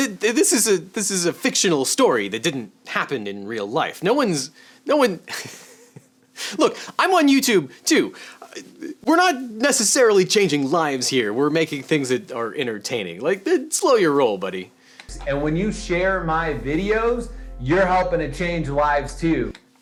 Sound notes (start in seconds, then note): 5.5 laughs